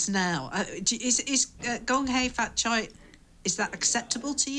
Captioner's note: speaks in foreign language